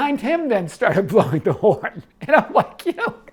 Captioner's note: laughs